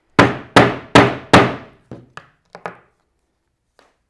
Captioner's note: mallet thudding